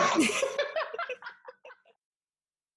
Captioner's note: both laugh